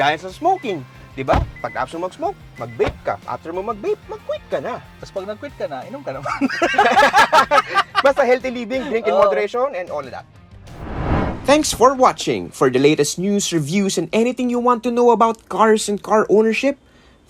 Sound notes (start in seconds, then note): 6.2 laughs